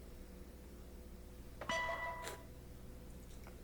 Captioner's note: text tone